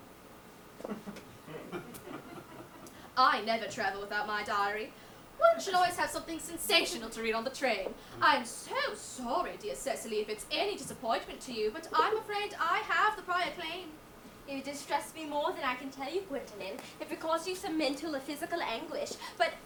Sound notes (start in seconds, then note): 1.4 audience laughs